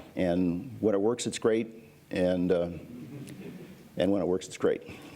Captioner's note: laughter